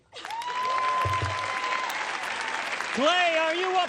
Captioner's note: applause